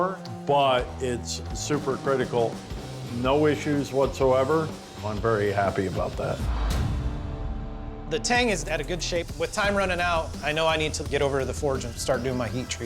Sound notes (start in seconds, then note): 6.1 thuds